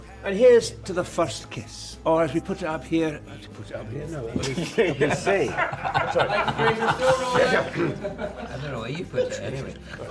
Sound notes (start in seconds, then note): 6.5 laughter